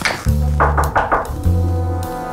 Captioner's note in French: toc toc toc